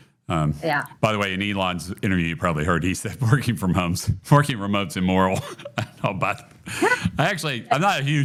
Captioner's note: chuckles